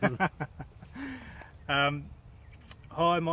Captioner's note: laughing